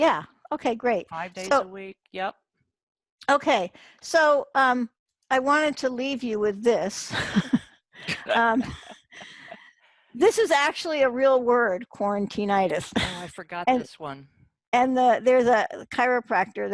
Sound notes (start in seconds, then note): 8.0 chuckles